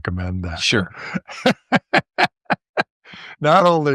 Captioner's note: laughter